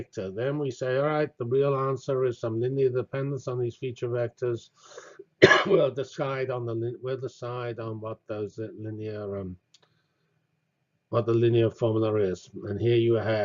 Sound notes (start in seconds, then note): 5.4 cough